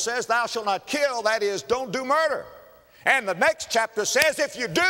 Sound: slap

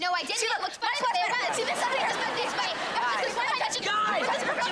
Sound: clamoring

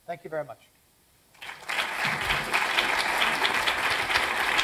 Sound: applause

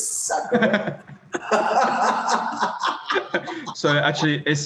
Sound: both laugh

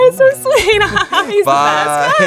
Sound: laughing

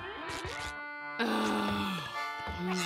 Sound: groaning

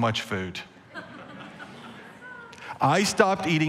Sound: congregation laughing

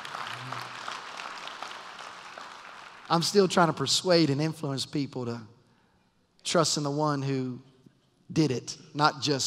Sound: applause

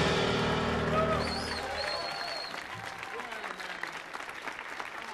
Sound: audience applauding

